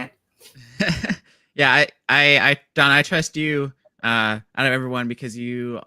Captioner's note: laughs